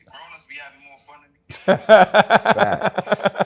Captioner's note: laughs